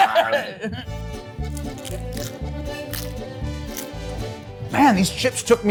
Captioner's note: laughs; chips crunching